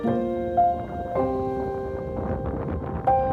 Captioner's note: wind